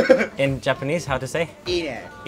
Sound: speaking in Chinese

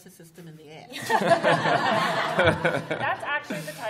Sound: laughter

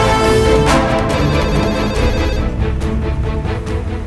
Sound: phone rings

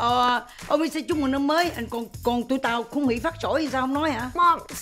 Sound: speaking foreign language

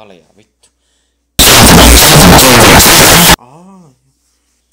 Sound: finnish swearing

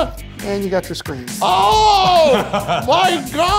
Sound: yelling

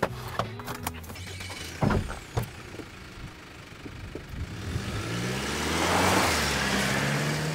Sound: truck starting

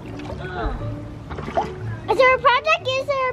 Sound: grunts

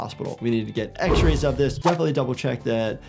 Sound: object booms; graphic whooshes

